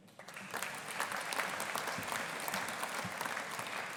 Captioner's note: audience applauding